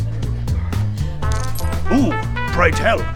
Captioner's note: ching